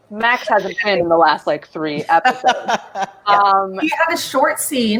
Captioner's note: laughs